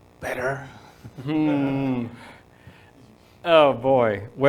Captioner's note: audience laughing